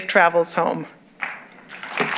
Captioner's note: applause